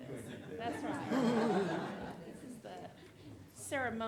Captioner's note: audience laughing